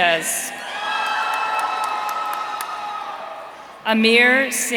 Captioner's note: audience cheering